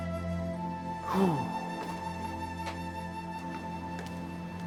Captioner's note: Alan sighing